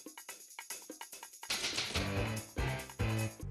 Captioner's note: typewriter clacking